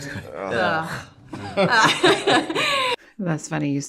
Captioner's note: laughs